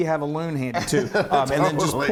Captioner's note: laughter